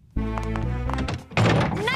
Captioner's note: door opens